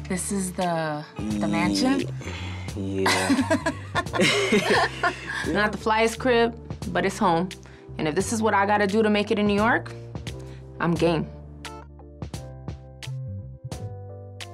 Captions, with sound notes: This is the mansion? - Yeah. (laughing) Not the flyest crib, but it's home. And if this is what I gotta do to make it in New York, I'm game.